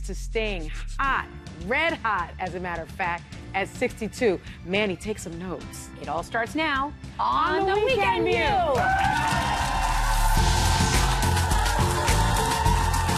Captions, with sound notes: to staying hot, red hot, as a matter of fact, at 62. Manny, take some notes. It all starts now. On The Weekend News. (audience cheering) (upbeat music)